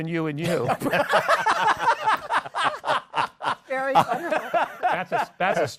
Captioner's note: laughter